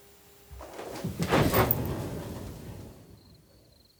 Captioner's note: loud movement sound